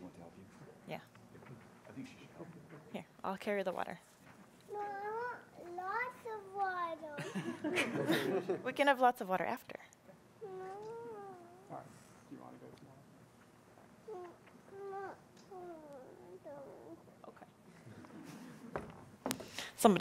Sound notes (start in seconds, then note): 7.2 audience laughing; 14.7 whimpering